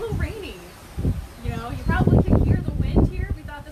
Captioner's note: wind blows across mic, impeccable timing